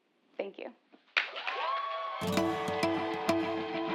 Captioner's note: applause